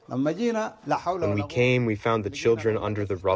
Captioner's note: through translator